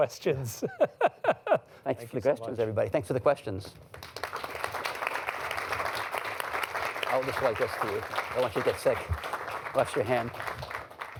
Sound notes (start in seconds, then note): 0.2 laughs; 3.8 applause